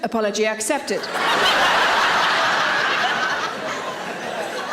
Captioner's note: audience laughing